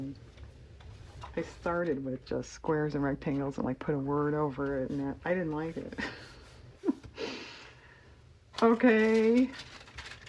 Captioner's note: laughs